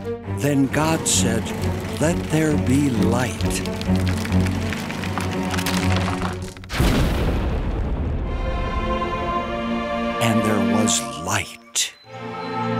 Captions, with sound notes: Then God said, "Let there be light." (tree falling) (uplifting music) And there was light.